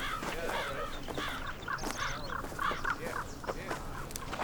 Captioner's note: men chattering